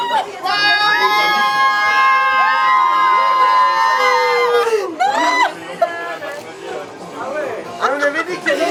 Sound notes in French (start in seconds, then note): 0.9 accueil triomphal et cris de liesse